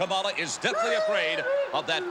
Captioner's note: Kamala wails